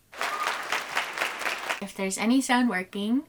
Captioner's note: applause